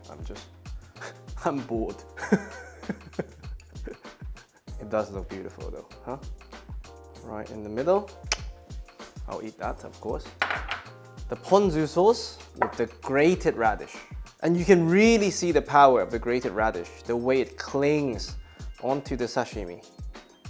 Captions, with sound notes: I'm just, I'm bored. [laughs] It does look beautiful though, huh? Right in the middle. [lips snap] I'll eat that, of course. The ponzu sauce with the grated radish. And you can really see the power of the grated radish, the way it clings onto the sashimi.